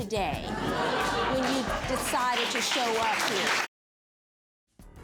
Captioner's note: audience laughs